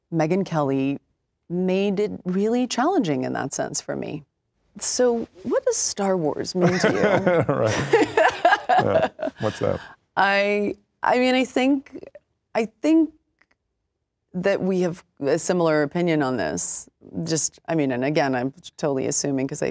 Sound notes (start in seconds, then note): 6.6 laughing